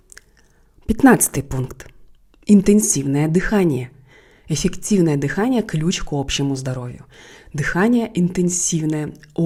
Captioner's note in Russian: Интенсивное дыхание